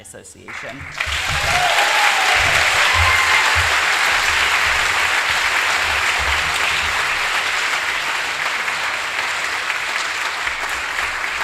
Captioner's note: applause